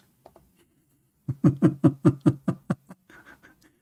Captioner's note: Ketawa